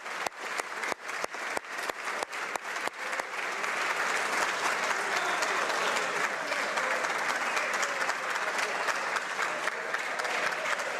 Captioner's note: applause